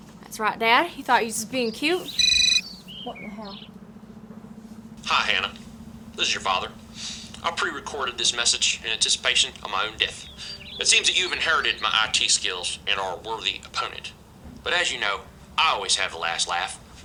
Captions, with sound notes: That's right, Dad. You thought you was being cute. [CELL PHONE RINGS] What in the hell? Hi, Hannah. This is your father. I prerecorded this message in anticipation of my own death. It seems you've inherited my I.T. skills and are a worthy opponent. But as you know, I always have the last laugh.